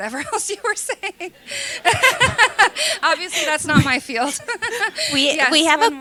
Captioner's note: laughter